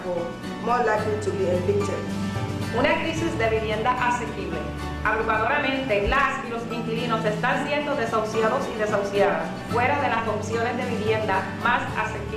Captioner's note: speaking a foreign language